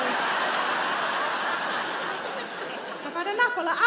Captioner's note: audience laughing